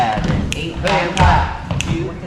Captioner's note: impact noises